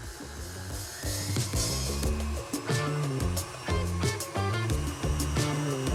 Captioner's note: mixer whirring; upbeat music